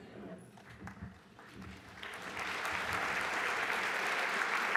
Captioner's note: applause